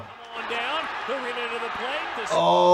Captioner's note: crowd cheering